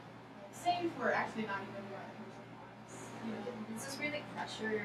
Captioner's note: speaking softly